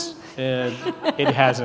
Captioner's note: laughing